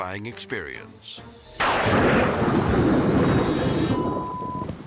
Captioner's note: thunder crashing